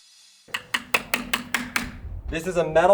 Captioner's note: knocking on beam reverberates